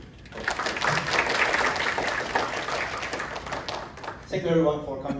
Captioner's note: applause